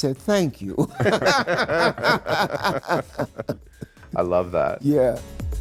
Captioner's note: everyone laughing